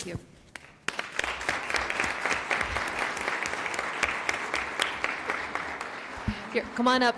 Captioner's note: applause